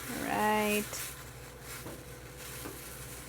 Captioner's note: boiling